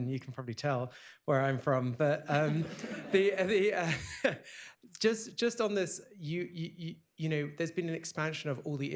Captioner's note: laughter